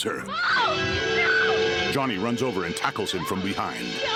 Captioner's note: Barbra screams